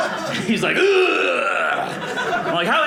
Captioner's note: grunts